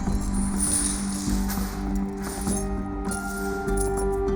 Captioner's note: chains rattling